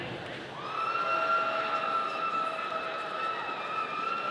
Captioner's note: audience cheering